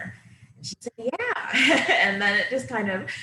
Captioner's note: laughing